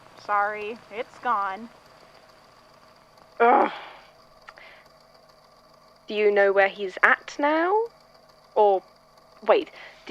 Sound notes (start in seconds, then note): 3.3 groans